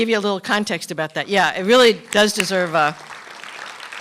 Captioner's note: applause